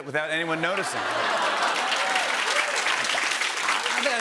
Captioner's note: laughter and applause